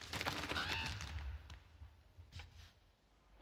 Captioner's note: cawing